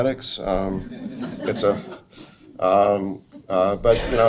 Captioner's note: audience laughs